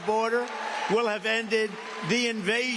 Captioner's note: cheers and applause